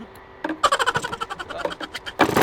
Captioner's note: laughing